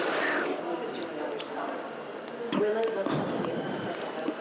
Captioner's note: speaks faintly